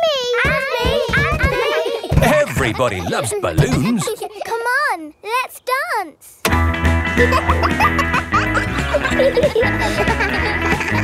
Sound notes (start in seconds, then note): 7.1 kids laughing; 7.4 pop music playing